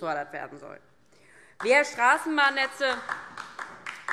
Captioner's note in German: Beifall DIE LINKE